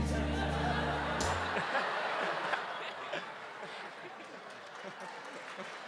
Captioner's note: laughter